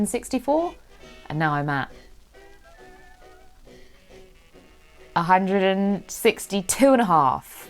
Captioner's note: giggles